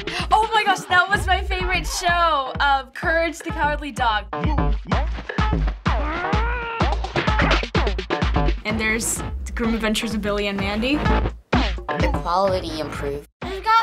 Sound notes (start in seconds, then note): 4.6 Dexter growls; 4.6 house music